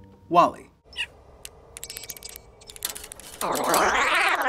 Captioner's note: bug chirping and skittering; WALL-E trilling